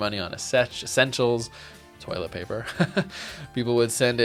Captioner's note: laughs